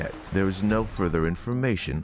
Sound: waves crashing

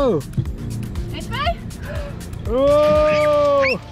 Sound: speaks Dutch; yells

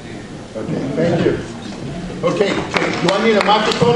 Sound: audience applauds

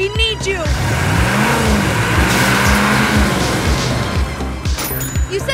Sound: car engine rumbles; cash register rings

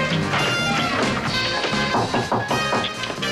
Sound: knocking on door

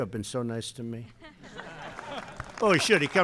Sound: laughter

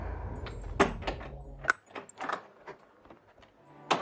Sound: front door opening

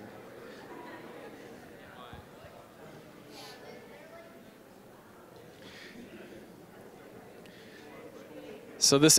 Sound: general chatter

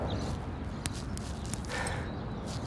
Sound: sigh

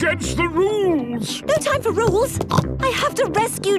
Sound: snorts

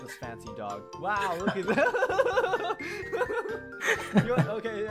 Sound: laughs

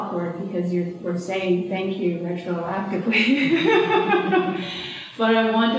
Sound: laughs

